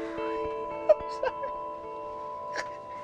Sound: Natalie laughing

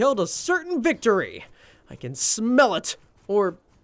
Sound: none

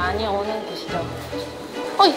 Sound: heart fluttering

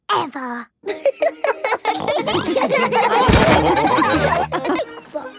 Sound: laughter; snorting

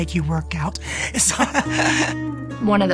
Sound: laughing

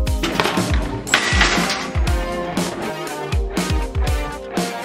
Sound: cart clatters

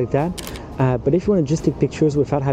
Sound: camera clicking

